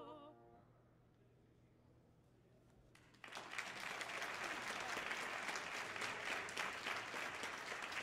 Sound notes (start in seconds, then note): 3.0 audience applauding